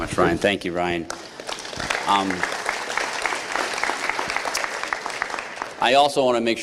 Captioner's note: applause